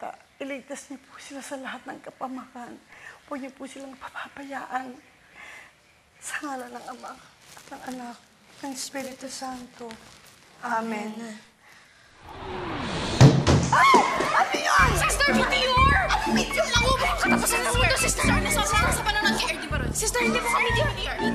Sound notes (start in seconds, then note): 12.1 whooshing; 13.0 thuds; 13.7 screams